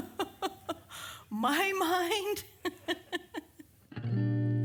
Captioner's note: chuckling; chuckling; strums guitar